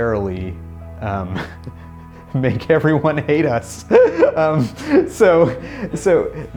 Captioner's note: laughing